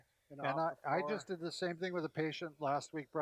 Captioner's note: mutters